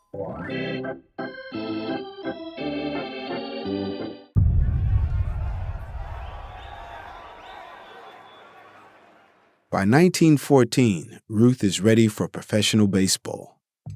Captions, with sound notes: (baseball music) (crowd noise) By 1914, Ruth is ready for professional baseball.